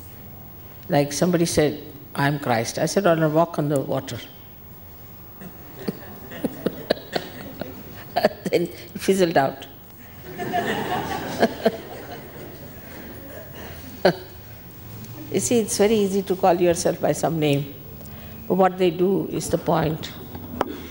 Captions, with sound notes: Like somebody said, "I'm Christ." I said, " Al... walk on the water." [LAUGHS] then he fizzled out [ALL LAUGH] You see, it's very easy to call yourself by some name but what they do is the point.